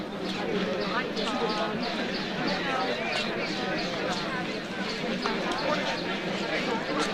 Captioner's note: overlapping chatter